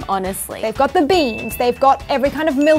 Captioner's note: bell ringing